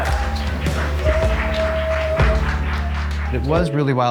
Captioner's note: cheering behind the camera